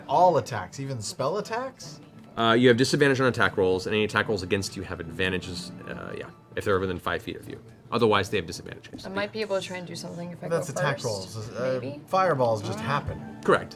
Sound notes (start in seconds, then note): none